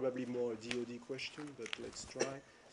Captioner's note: laughter